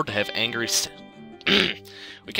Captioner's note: clears Throat